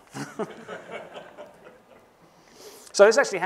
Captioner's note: laughter